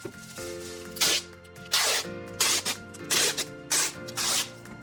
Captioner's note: tape screeching